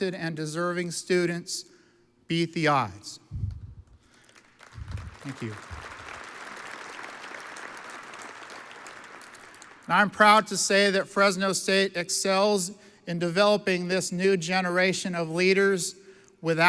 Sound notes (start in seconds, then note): 4.1 audience applauds